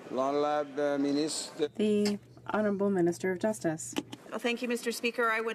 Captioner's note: speaking French